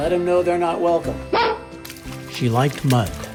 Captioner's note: barking